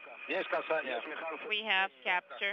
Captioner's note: russian transmission